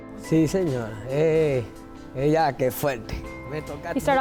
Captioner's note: speaking foreign language